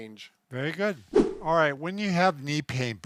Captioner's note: air whooshes